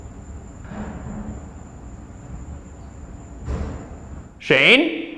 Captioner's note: mysterious knocking downstairs